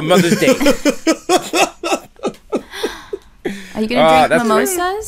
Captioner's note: laughter